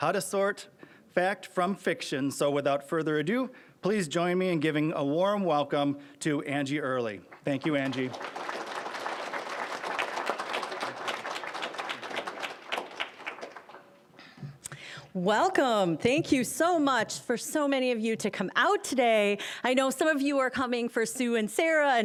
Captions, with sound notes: "How to Sort Fact from Fiction." So without further ado, please join me in giving a warm welcome to Angie Oehrli. Thank you, Angie. (applause) >> Welcome! Thank you so much for so many of you to come out today. I know some of you are coming for Sue and Sara,